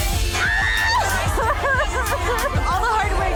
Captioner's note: upbeat music; women cheering